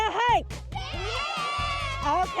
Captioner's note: children yell